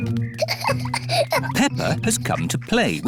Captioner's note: peppa giggling